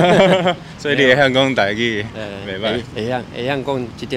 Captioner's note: in Taiwanese